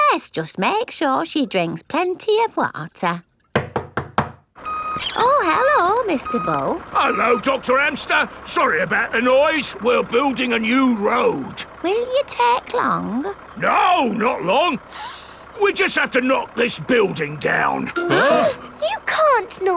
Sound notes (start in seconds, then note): 3.6 knocking at door; 14.9 sniffs; 18.1 all gasping